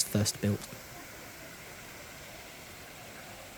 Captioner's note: sound of running water in fountain